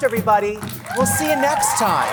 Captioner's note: audience applauding